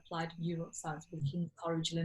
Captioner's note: murmurs